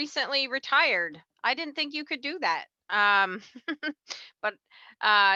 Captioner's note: laughs